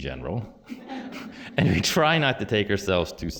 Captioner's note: laughter